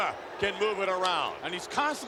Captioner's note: Yokozuna claps